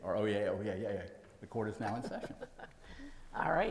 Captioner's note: laughs